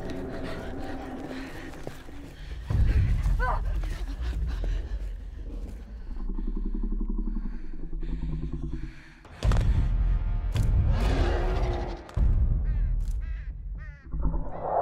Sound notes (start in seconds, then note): 0.2 dinosaur growls; 2.6 ominous music; 3.7 dinosaur growls